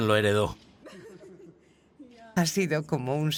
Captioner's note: Harry and Meghan giggle